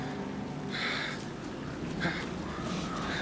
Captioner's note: panting